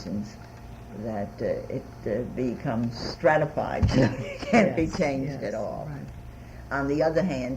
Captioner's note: laughs